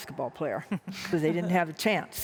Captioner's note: laughter